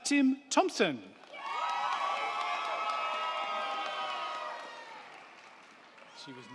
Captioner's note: crowd clapping; crowd cheering